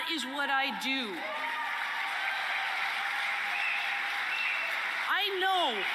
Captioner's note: applause and cheering